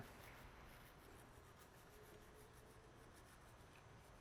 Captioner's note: brushing